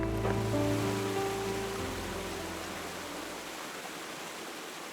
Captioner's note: water flowing